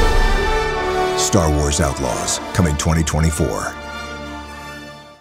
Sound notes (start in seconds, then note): 1.1 narrator reading